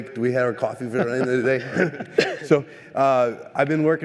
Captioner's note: laughter